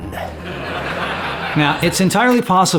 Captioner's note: audience laughing